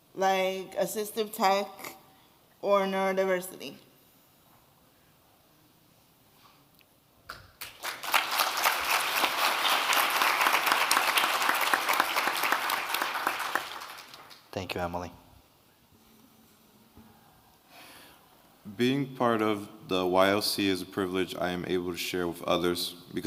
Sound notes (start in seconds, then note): 7.5 audience clapping